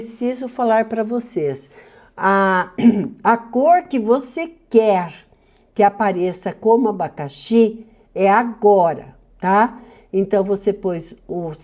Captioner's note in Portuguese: limpando a garganta